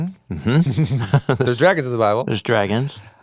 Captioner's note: both laugh